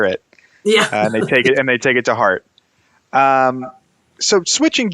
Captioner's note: chuckles